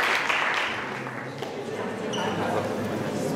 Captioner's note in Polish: Aplauz